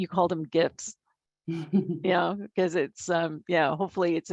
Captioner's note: laugh